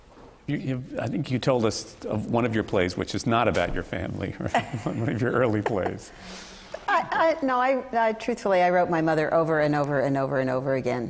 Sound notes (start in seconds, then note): 4.4 laughter